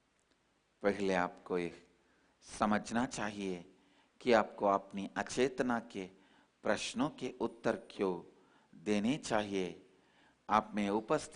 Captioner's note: in Hindi